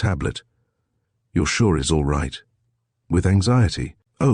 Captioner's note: with anxiety